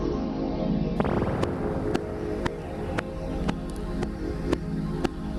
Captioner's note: electronic bubbling noise